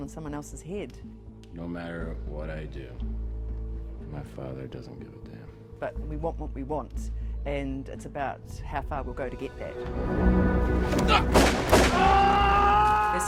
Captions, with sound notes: in someone else's head. - No matter what I do, my father doesn't give a damn. - But, we want what we want, and it's about how far we'll go to get that. (gun fires) (man screams)